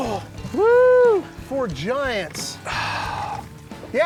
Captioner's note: sighs